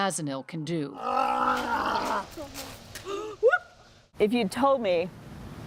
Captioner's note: shouting